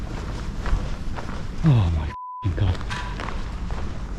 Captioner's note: beep